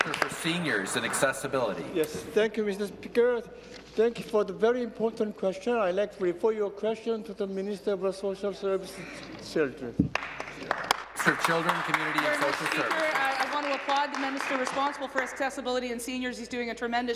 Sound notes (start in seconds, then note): 0.0 applause